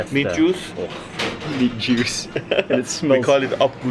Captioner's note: laughing